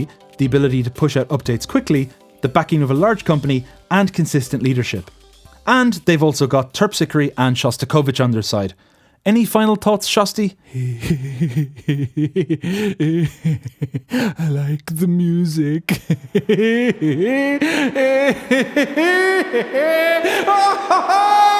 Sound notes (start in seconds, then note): 11.0 chuckles softly; 15.8 chuckles softly; 15.8 chuckles get louder; 18.3 chuckles intensify; 20.3 'chuckles intensify' intensifies